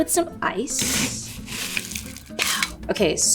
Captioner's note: ice rattles